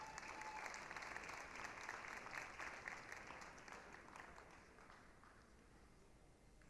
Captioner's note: applause, cheering